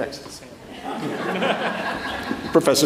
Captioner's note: audience laughs